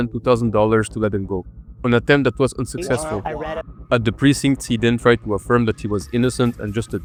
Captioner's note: womp Womp